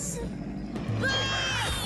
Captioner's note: Cameron Screaming